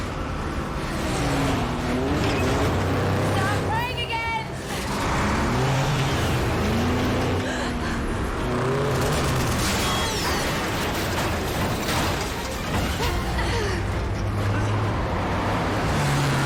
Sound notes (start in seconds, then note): 7.8 robyn gasps; 9.2 gunfire, bullets ricochet